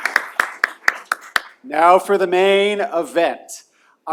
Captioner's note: applause